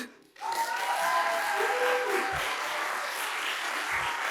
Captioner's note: applause